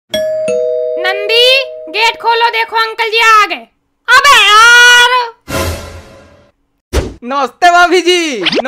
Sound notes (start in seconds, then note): 0.1 bell rings